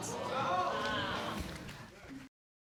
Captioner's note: audience exclaims